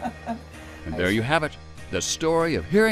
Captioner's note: laughs